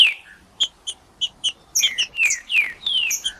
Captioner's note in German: trinca ferro cantando